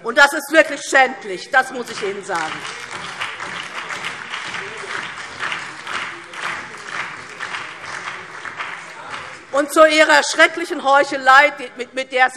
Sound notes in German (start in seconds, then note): 1.6 Beifall DIE LINKE, BÜNDNIS 90/DIE GRÜNEN und SPD - Zurufe AfD